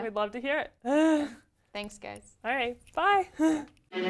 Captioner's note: laugh